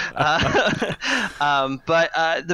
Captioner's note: laughs